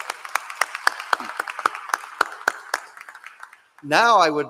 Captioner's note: applause